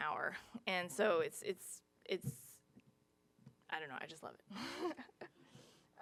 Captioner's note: chuckles